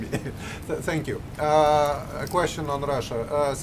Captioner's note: laughter